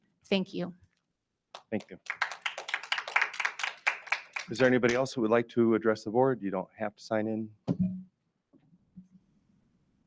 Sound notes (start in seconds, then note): 1.6 audience applauds